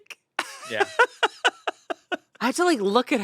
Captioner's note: laughs